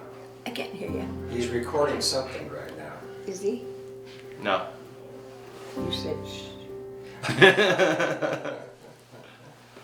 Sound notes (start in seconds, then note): 6.0 shushing noise; 7.2 laughter